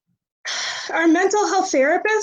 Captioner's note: exhales